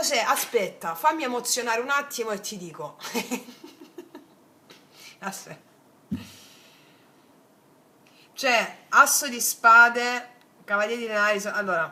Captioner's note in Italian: risate